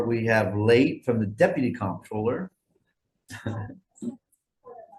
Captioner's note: laughs